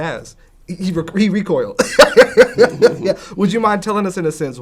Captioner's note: laughs